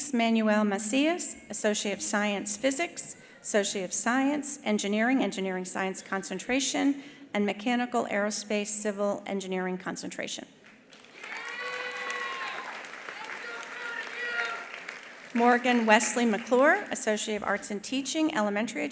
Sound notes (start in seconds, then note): 10.8 attendees applauding; 11.0 attendees cheering